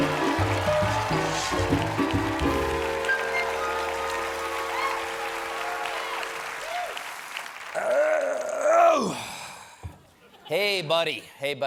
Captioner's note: cheers and applause; grunts